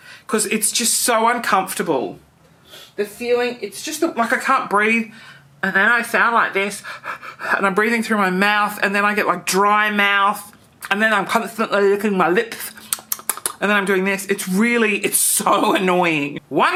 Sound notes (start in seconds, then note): 6.8 breathing heavily; 12.6 smacks lips